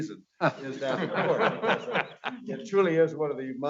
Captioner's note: audience laughing